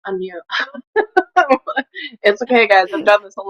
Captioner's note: laughs